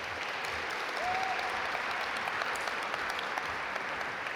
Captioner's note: audience applaud